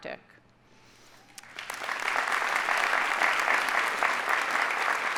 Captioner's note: audience applauding